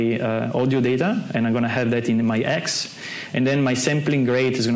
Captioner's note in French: none